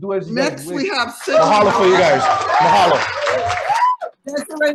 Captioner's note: audience applauding